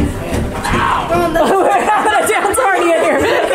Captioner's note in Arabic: يضحك